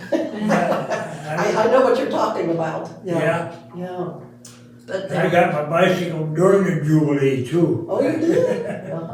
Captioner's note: laughing